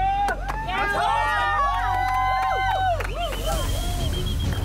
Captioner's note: all cheering; upbeat music